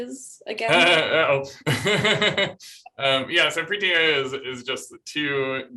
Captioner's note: laughter